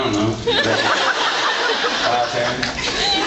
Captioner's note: drawls